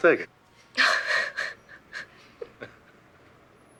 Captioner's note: laughing